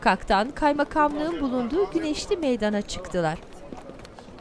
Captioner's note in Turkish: Sokak ortam sesleri